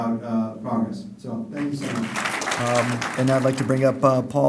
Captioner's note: applause